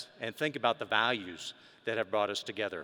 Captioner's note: none